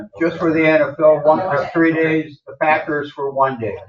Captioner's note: chatter